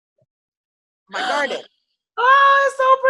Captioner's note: gasping